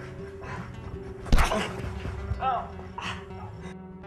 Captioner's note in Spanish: sollozar